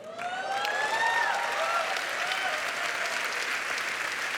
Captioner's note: applause